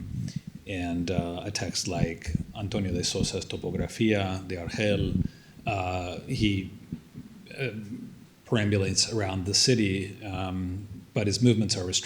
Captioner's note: non-english